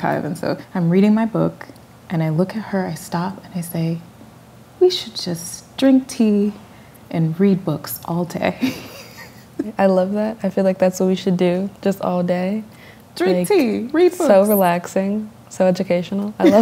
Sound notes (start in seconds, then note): 8.6 laughter